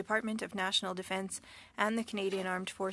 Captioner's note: speaking French